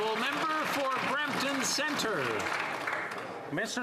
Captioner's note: applause